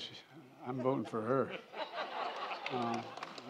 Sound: applause

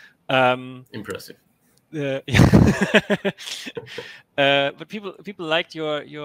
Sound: laughing

